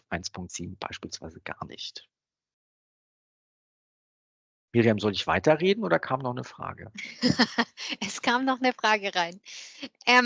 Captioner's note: laughing